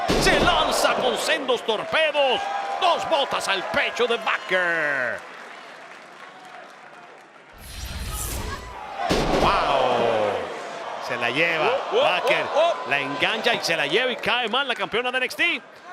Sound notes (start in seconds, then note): 5.9 applause